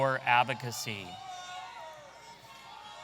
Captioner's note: audience cheering